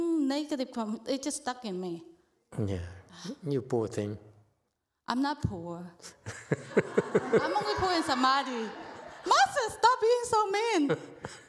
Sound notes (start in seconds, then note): 6.2 laughs, audience laughs